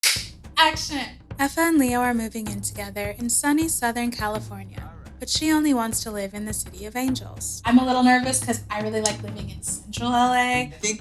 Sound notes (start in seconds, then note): 0.0 claps hands